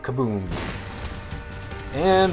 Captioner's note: boom